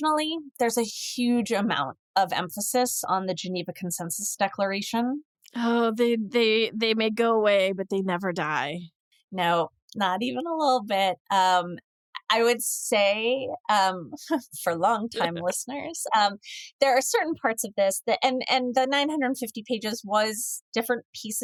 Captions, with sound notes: there's a huge amount of emphasis on the Geneva Consensus Declaration. Oh, they may go away, but they never die. No, not even a little bit. I would say [chuckles] for long time listeners, there are certain parts of this that- and the nine 50 pages was different pieces